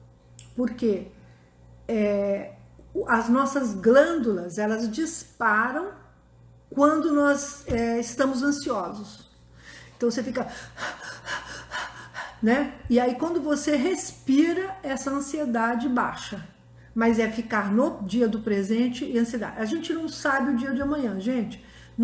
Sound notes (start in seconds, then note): 9.4 breathing